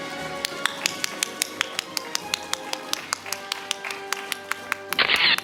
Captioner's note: audience applauding; camera shatters